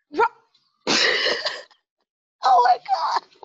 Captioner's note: laughs